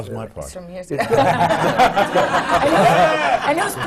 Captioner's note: laughter